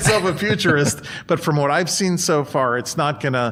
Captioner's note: chuckles